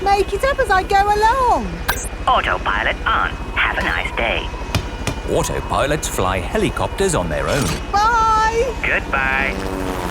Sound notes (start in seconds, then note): none